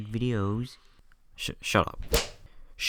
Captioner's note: slap